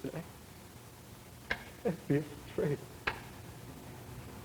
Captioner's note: Hall, Jr. muttering